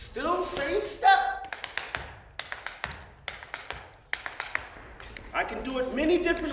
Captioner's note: tapping